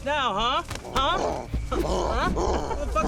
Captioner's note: growling